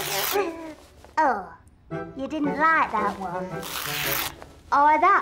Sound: tearing

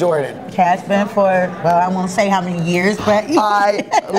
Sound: laughs

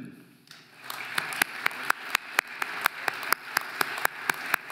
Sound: audience applauding

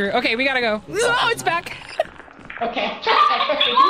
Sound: laughs; bug skitters

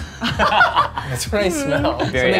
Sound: laughs

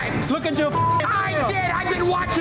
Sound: beep

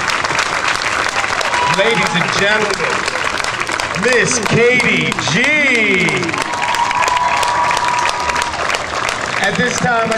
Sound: audience clapping

